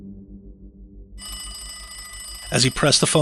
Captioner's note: phone rings